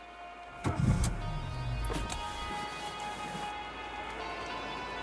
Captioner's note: car engine roaring